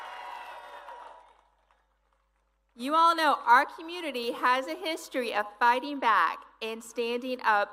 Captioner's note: applause